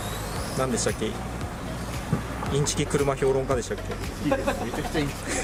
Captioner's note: laughs